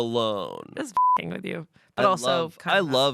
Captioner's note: beep